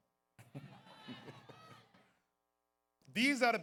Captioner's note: audience cheers